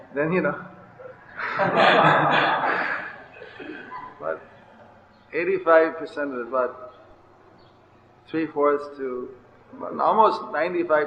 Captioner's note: laughing